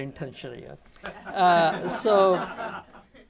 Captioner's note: laughter